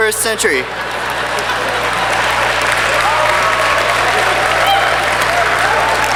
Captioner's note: laughter and clapping